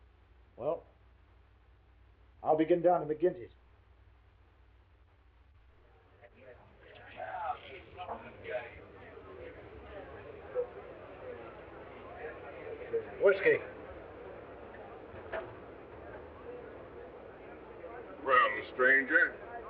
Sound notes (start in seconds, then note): 6.4 all chattering